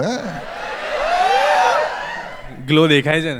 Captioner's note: crowd applauding